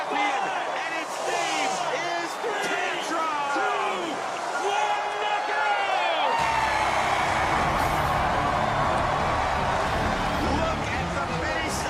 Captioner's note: cheering